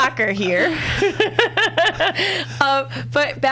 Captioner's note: laughs